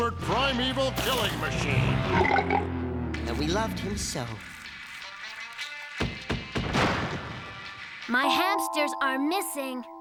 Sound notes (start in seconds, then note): 1.8 burp; 5.8 knock on door